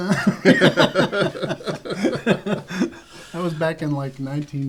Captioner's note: laughter